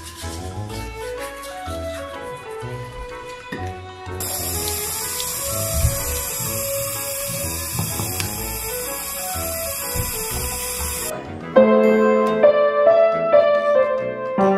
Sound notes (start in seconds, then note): 4.2 water running; 11.8 plays piano